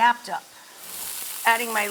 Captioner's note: leeks sizzle in hot pan